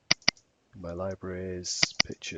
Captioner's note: mouse clicking